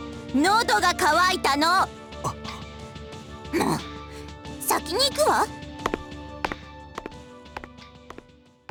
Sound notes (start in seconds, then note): 2.2 sigh; 2.2 gasp